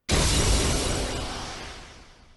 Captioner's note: bang